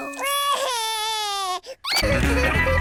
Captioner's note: cries